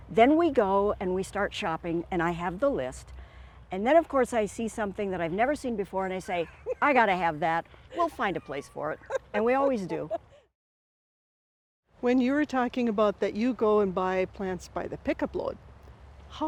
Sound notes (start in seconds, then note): 7.9 laughing